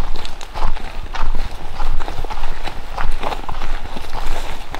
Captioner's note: footsteps fall